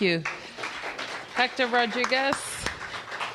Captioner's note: applause